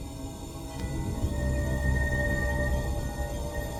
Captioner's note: ethereal music builds; blue rock pulsing